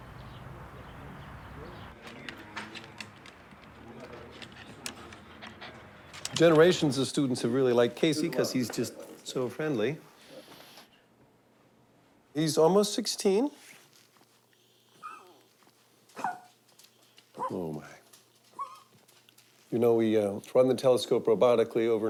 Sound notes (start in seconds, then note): 0.0 birds chirping; 15.9 yelping